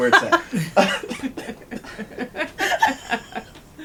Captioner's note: laughter